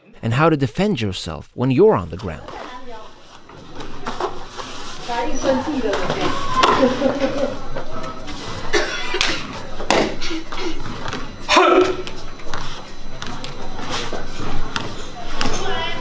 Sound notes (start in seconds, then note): 11.5 kiai